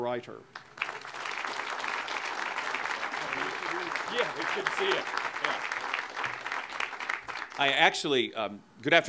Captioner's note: audience applause